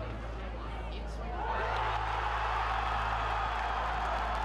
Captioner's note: crowd cheering